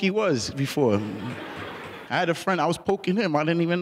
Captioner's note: laughing